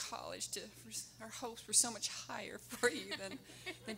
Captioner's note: laughing